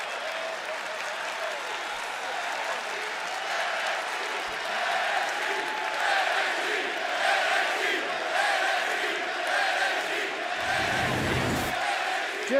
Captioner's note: crowd cheering